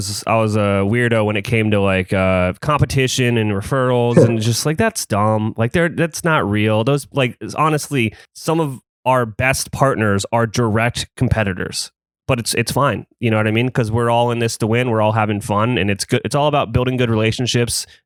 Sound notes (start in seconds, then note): 4.1 laughs